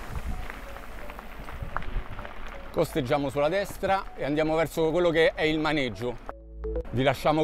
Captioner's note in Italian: Applauso